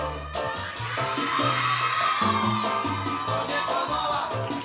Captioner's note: audience cheering